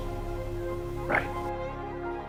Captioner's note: voiceover